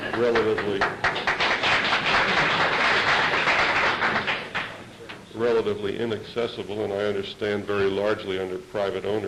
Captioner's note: applause